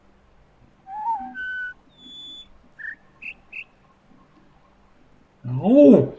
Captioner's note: bird warbling ˩˧˩ ˥; bird chirps four notes